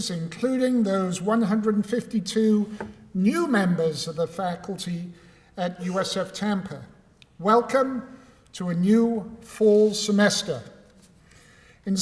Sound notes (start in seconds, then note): none